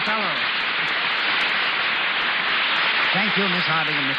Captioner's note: audience applauds